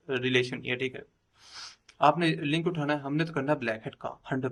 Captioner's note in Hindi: नाक से की जाने वाली आवाज़